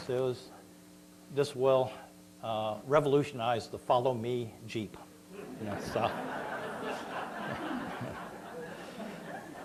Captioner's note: laughter